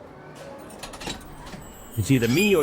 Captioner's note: door handle noise